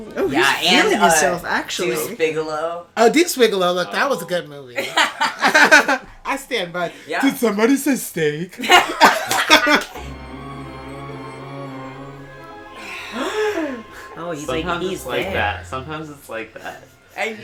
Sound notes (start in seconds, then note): 12.5 laughter